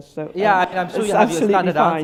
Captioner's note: audience laughter